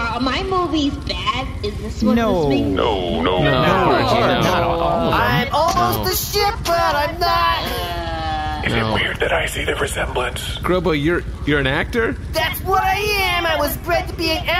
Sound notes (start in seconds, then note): 7.9 whispering